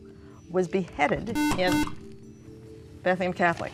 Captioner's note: beep